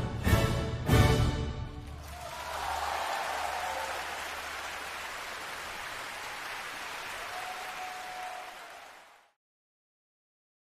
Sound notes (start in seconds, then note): 1.8 cheering and applause